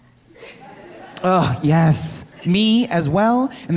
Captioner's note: audience laughing